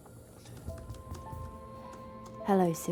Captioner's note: gentle somber music; laptop keyboard clicking